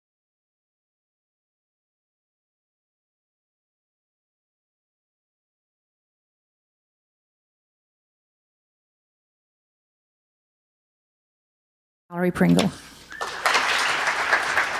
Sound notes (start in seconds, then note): 13.1 applause